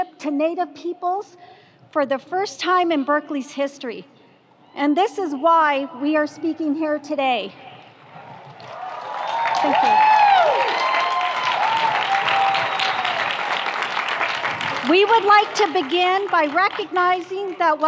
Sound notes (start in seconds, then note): 8.5 audience applauds; 8.6 audience cheers